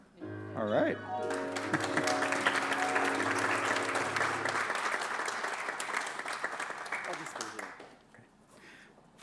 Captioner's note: applause